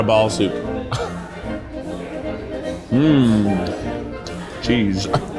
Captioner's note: chuckles